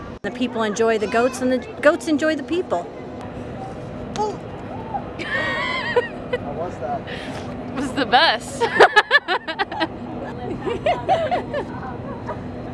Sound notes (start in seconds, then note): 4.9 audible laughing; 8.5 audible laughing